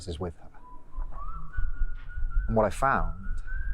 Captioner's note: man whistling